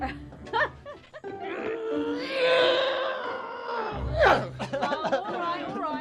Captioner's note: Kate laughing; Bobby grunting